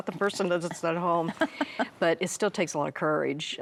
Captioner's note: chuckling